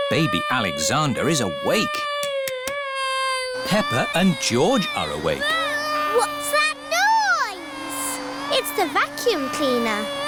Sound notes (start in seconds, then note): 3.6 vacuum cleaner whirring